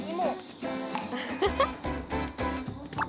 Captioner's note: ah